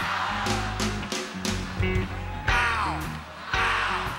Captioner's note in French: la foule chante